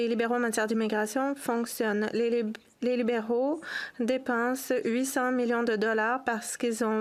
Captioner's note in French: voix de l'interprète